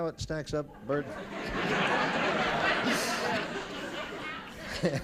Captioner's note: laughter